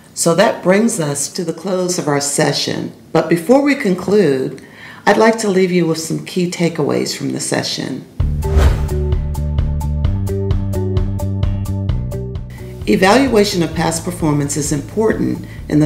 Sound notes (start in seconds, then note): 8.3 upbeat pop music; 8.4 whooshing